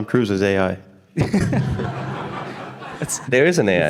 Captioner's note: everyone laughing